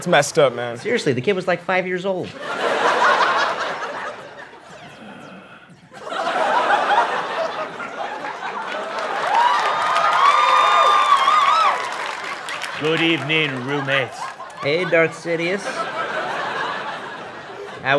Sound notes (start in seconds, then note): 2.3 laughter; 6.0 cheering